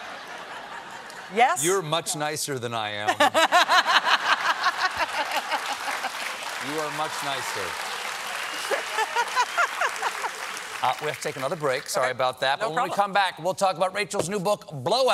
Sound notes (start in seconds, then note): 3.0 laughter; 4.4 applause